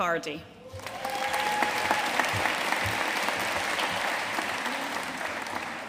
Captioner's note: audience cheering and applauding